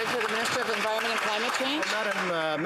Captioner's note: applause